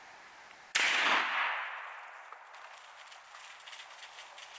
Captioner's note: gunshot firing